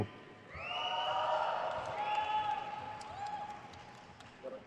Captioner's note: crowd cheers